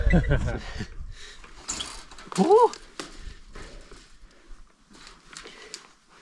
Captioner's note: wire clanking; groans